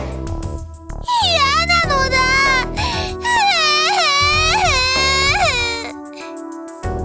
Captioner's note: sob